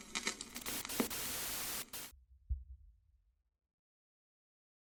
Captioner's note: static hissing